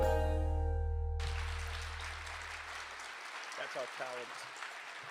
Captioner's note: applause